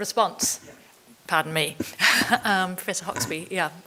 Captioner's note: laughs